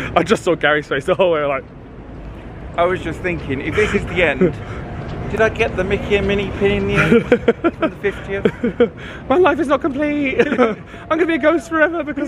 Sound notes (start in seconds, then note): 6.9 laughs